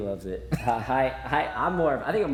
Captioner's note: chuckles